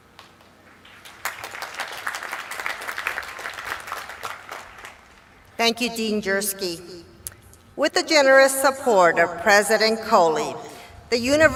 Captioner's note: applause